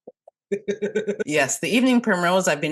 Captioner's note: laughs